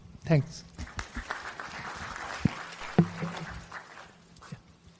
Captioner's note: applause